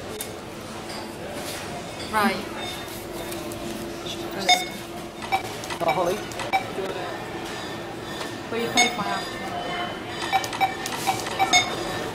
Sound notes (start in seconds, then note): 4.5 scanner sounds; 10.4 scanner sounds